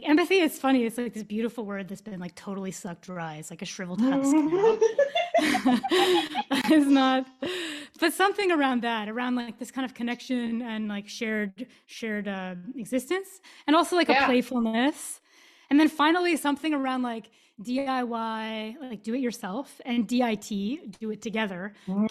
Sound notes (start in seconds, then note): 7.5 laughs